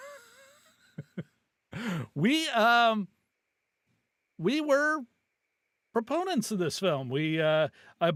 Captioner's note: laughing